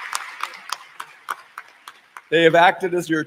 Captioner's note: cheering